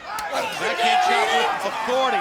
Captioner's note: Tony speaks faintly